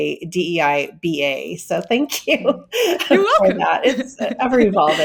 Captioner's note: laughing